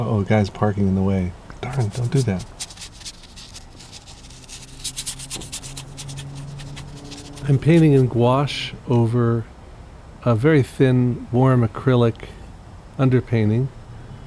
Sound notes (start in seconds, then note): 3.6 bristles scratching